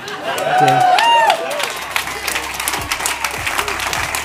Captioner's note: audience applauding